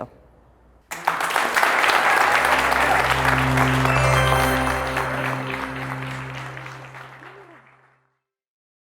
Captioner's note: applause